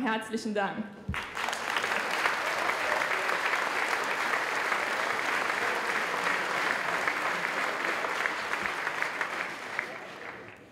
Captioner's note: applause